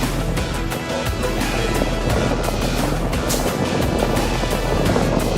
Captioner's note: wheels rolling against pavement